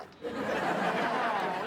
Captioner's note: audience laughs